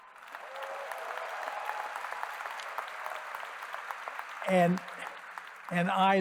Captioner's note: cheering